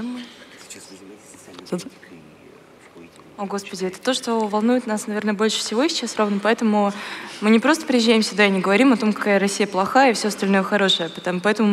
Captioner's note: foreign Language